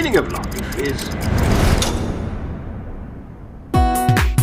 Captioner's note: ticking crescendos and then stops abruptly; upbeat music